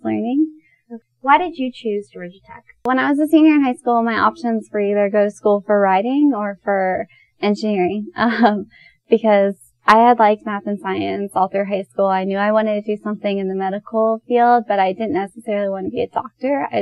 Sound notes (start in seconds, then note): 8.2 chuckles